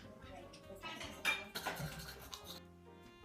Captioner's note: utensils clinking; teeth-brushing noises